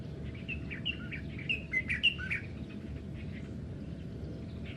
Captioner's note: birds chirping